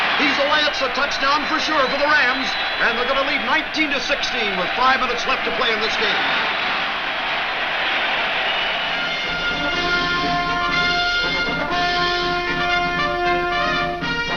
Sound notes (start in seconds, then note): 6.4 crowd cheers; 8.8 upbeat music